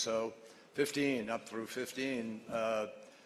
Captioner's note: none